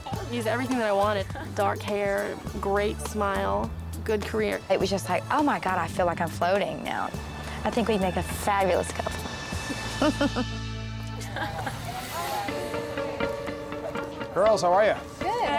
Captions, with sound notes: - He's everything that I wanted. Dark hair, great smile, good career. - It was just like, oh my God, I feel like I'm floating now. I think we'd make a fabulous couple. (chuckling) (soft expectant music) - Girls, how are you?